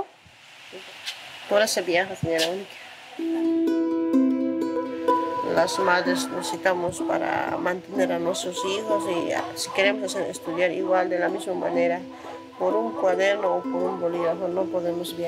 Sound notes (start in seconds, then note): 3.9 gentle music; 5.9 speaking in foreign language